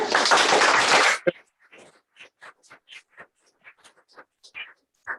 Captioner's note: applause